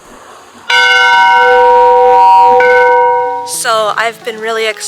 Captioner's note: bell tolls